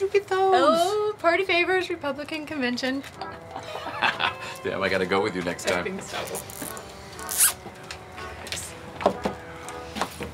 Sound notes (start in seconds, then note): 3.2 both chuckle; 7.2 tie zips